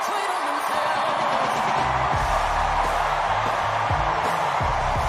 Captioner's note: applause